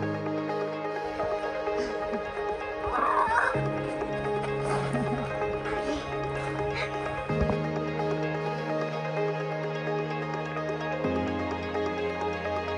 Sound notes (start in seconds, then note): 2.8 kids scream in glee; 6.6 inspiring music continues